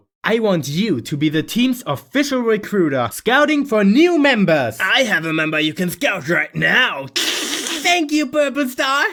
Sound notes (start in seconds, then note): 7.2 chuckles